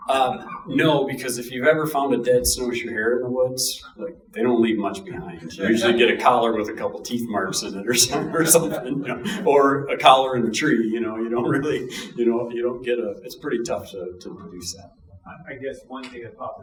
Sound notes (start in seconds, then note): 7.8 audience chuckling